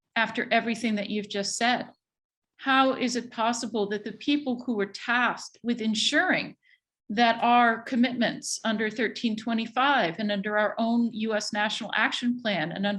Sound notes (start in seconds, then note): none